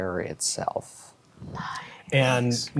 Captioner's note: quietly